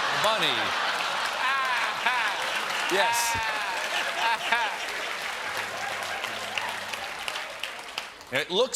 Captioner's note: laughter